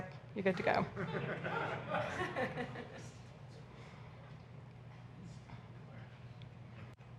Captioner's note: audience laughs